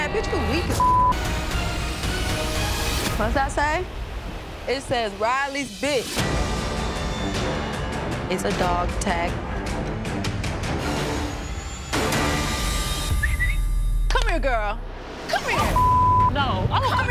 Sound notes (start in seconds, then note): 13.0 whistles